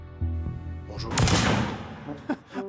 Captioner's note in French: coup de feu